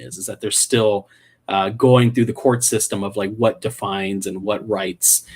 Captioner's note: none